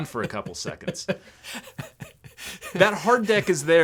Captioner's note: laughing